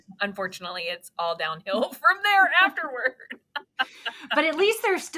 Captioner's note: both laughs